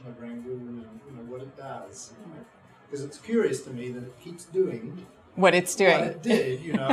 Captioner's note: chuckles